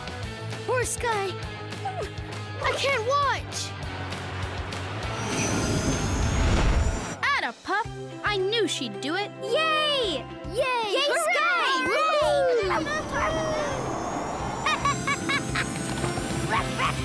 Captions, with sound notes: Poor Skye, I can't watch! Atta-pup, I knew she'd do it. [cheering] [laughing] Ruff ruff!